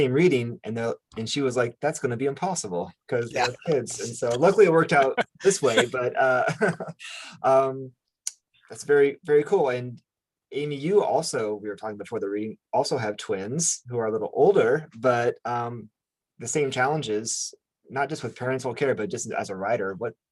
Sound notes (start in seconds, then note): 3.3 laughs; 6.1 chuckles